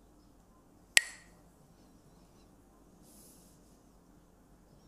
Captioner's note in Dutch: klakt met stokjes